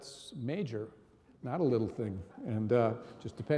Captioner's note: audience laughing